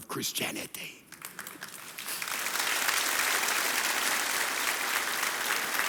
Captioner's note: audience applauding